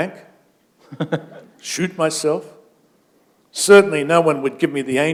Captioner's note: chuckle